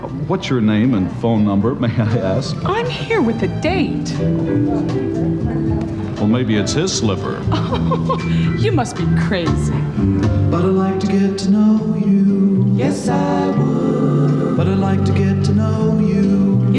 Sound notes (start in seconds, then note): 3.9 upbeat music; 7.3 chuckles